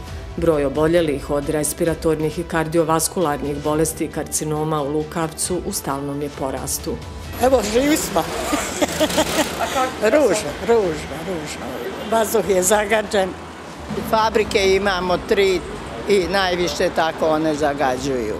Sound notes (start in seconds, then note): 8.3 laughter